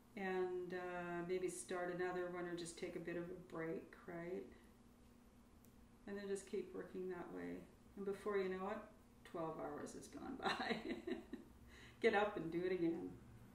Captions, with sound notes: and maybe start another one or just take a bit of a break. And then just keep working that way and before you know it, 12 hours has gone by (laughs). Get up and do it again.